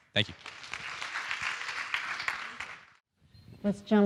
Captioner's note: audience applauding